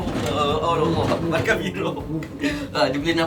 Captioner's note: laugh